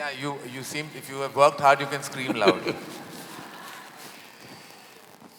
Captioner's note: Sadhguru laughs